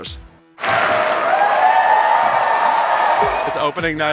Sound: audience cheers

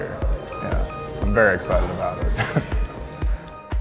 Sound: laugh

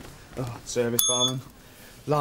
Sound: rings bell

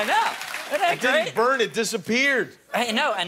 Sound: applause

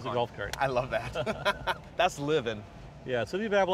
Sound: laughter

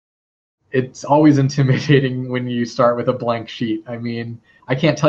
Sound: laugh

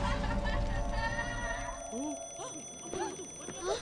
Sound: alarm ringing

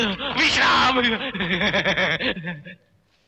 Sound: softly Laugh

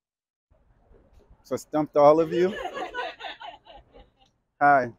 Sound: audience laughs

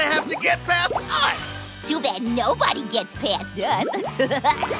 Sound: giggles

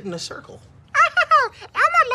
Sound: laughs

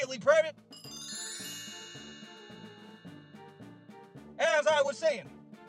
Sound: chimes

